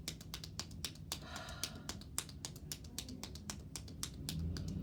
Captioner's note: hands tapping; sighs